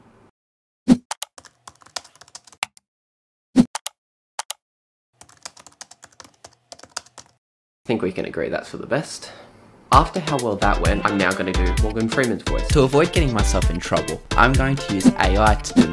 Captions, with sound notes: [Keyboard typing and clicks] I think we can agree that's for the best... After how well that went, I'm now going to do Morgan Freeman's voice. To avoid getting myself in trouble I'm going to use AI to